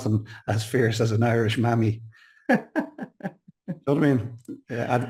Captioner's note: chuckles